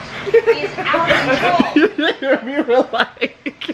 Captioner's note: laughing